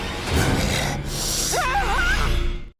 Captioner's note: unsettling music; snarls; screams